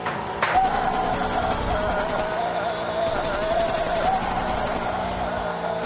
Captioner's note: gunfire sound effects; yelling